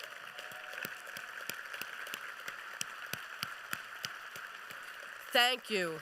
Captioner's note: applause